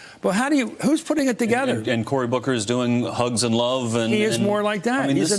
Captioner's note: Michael Steele speaking